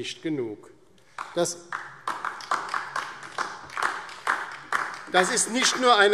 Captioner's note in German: Beifall DIE LINKE